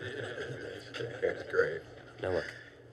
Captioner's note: teachers laugh